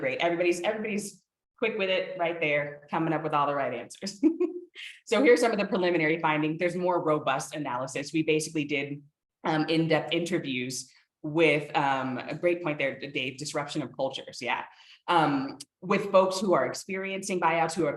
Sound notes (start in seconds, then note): 4.2 chuckles